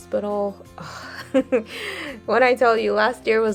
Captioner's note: giggles